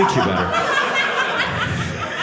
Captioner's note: audience laughing